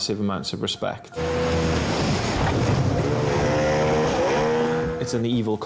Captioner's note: engine revs; waves roar